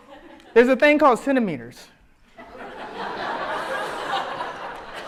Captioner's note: audience laughs